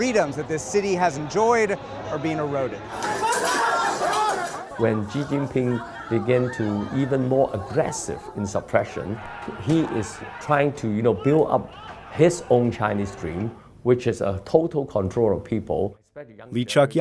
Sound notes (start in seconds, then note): 3.7 yelling in foreign language